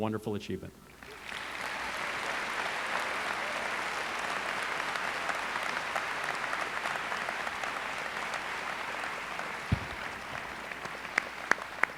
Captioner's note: applause